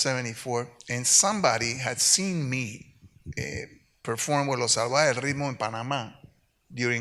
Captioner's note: speaks Spanish